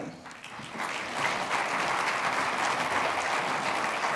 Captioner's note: applause